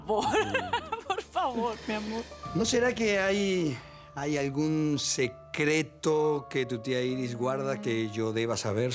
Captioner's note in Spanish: Risas